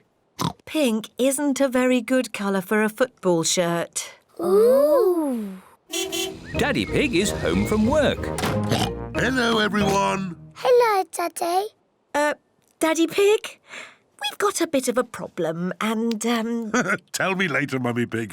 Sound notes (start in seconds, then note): 0.0 oinks; 5.9 car horn toots; 8.6 oinks; 16.6 laughs